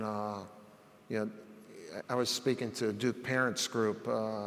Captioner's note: none